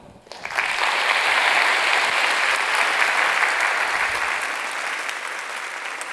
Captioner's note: applause